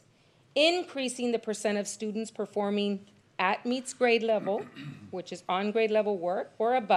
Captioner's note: clears throat